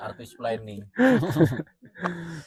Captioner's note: laughter